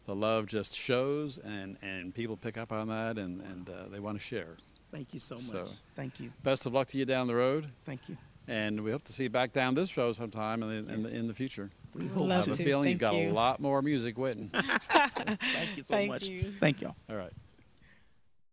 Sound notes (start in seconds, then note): 14.5 laughing